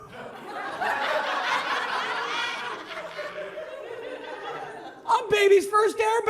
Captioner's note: audience laughs